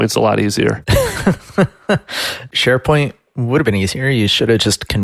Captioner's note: laughs